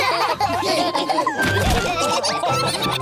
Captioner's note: all laughing